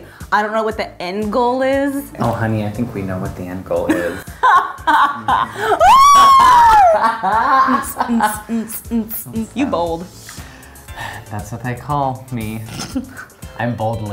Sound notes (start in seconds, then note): 4.0 laughs; 4.3 whoops, laughter